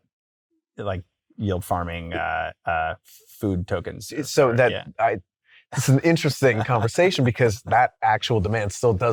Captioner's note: chuckles